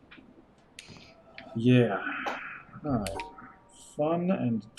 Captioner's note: sighing